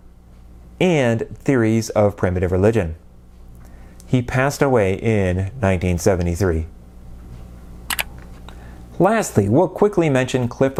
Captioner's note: mouse click